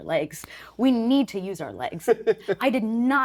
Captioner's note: chuckling